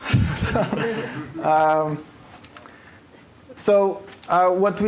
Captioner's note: laughter